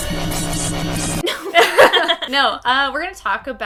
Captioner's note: electronic music; laughing